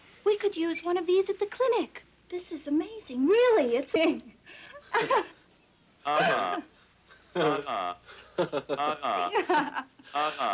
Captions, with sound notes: We could use one of these at the clinic! This is amazing, really! (computer laughs) (everyone laughs)